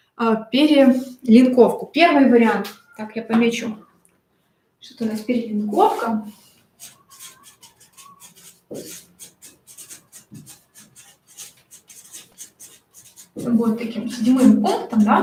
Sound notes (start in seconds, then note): 7.2 скрежет маркера по бумаге